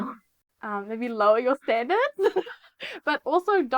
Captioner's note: laughs